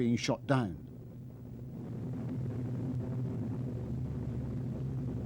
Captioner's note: plane humming